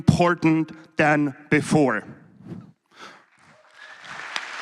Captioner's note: applause